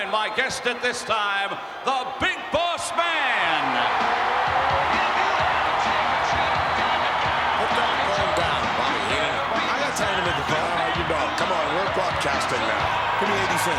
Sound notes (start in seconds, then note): 4.3 crowd cheering; 4.3 driving rock music